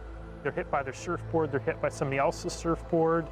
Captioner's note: voiceover